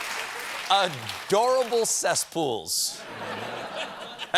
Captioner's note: laughter